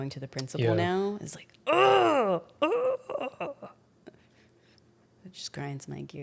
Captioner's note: grunts